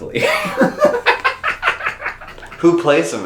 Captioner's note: both laugh